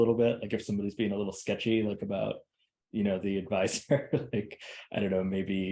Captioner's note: laughs